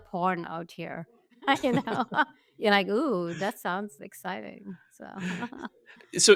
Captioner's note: laughs